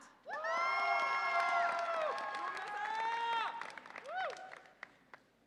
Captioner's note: audience applauds and cheers